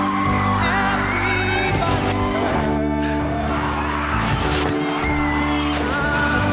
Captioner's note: tyres screech; screaming